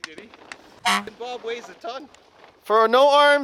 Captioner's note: honk